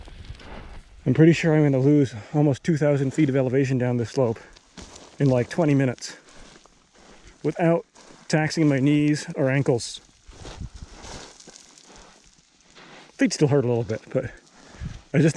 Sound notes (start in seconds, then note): 0.1 feet sliding; 10.2 feet sliding; 10.9 air whooshing